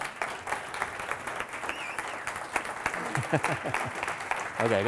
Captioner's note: audience applauding